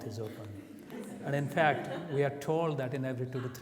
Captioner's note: audience laughs